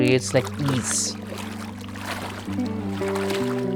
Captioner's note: water lapping the pool